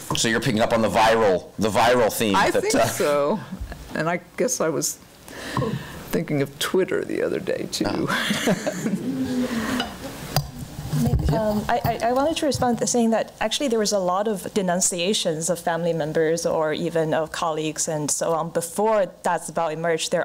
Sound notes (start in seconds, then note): 8.0 laughing